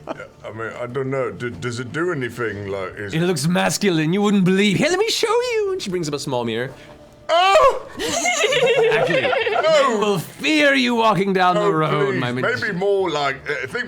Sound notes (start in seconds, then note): 7.3 screams; 7.9 everyone else laughs